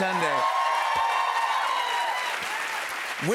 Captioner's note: cheers and applause